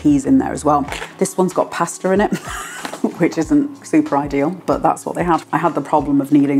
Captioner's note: laugh